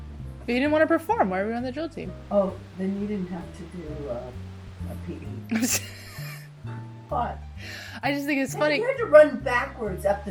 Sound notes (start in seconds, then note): 5.4 laughs